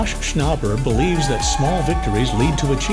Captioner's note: audience cheering